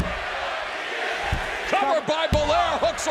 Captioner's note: crowd chatter